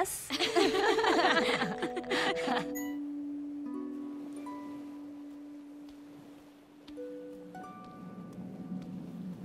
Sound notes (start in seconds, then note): 0.3 laughing; 2.4 pensive music playing; 4.0 waves crashing